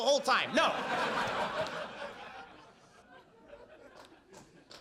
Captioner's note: audience laughs